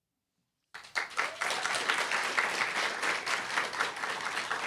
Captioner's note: applause, cheer